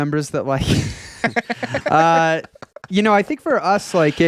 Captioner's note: laughing